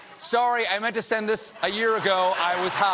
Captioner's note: laughter; applause